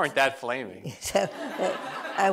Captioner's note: laughter